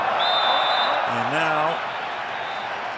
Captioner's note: whistles